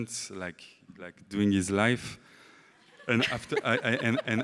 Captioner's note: laughs